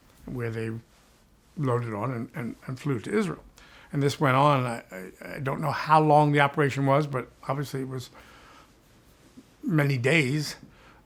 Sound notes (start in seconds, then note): none